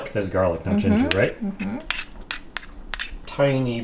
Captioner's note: bowl scraping